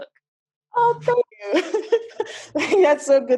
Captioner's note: chuckles